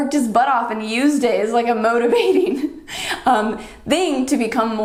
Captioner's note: chuckles